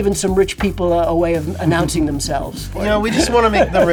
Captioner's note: laughs